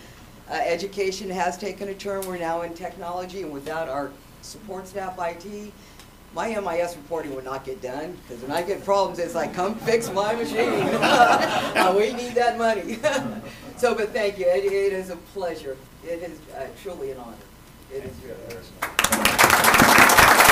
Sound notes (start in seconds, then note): 9.6 laughter